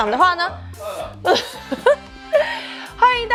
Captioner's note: laughs